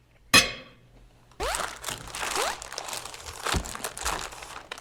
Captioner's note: rustling